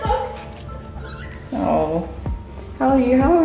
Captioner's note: Mapo meows